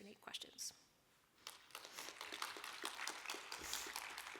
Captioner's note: applause